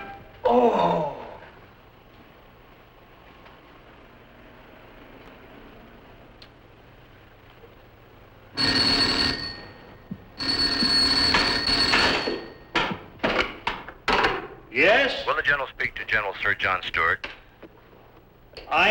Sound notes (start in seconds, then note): 8.5 telephone rings; 10.2 ring ring